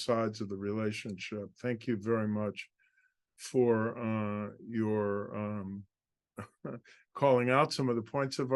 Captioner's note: laugh